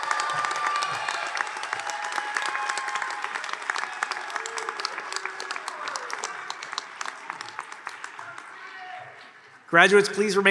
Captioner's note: applause